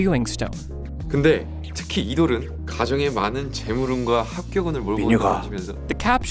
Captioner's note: speaking foreign language